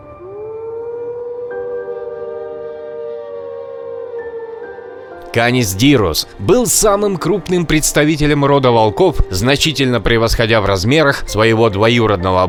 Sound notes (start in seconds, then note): 5.4 background sound: distant howls of wolves, rustling of the night forest